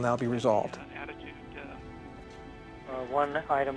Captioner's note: murmurs